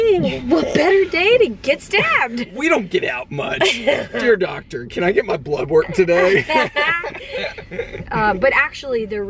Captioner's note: both laughing